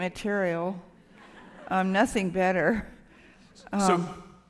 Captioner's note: laughter